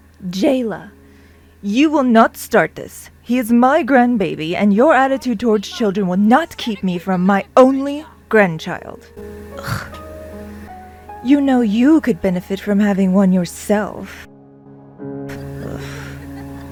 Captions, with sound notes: "Jayla! You will not start this! He is my grandbaby and your attitude towards children will not keep me from my only grandchild! (scoff) You know, you could benefit from having one yourself." "Ugh...."